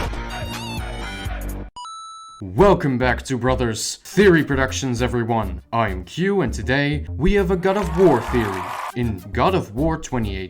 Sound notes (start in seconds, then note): 7.7 cheering sound